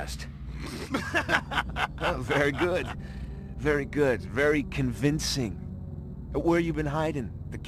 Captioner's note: laughs